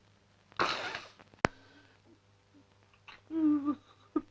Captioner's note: crying